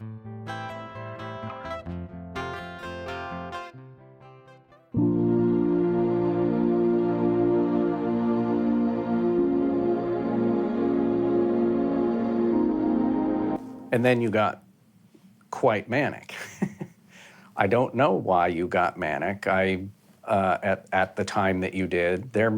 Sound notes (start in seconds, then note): 0.2 light music; 4.9 soft airy music; 16.3 chuckles